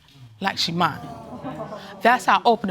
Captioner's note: audience exclaiming